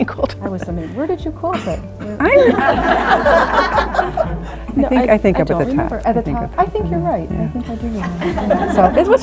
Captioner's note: laughter